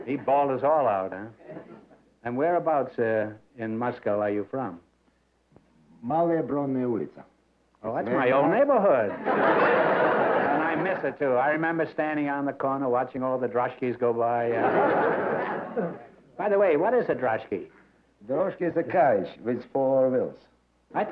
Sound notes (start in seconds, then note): 6.0 non-english; 9.0 laughter; 14.5 laughter